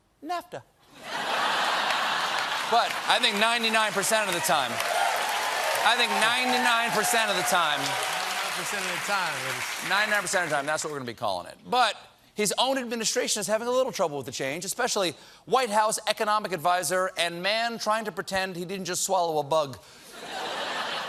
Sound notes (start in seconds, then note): 0.9 laughter; 2.0 applause